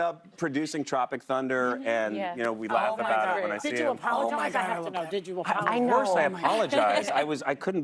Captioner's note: laughter